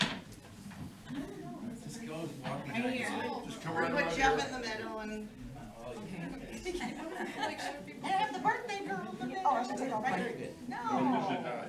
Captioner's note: laughter